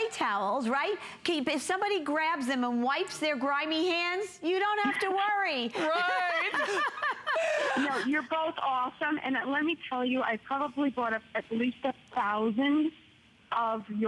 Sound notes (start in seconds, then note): 5.7 laughter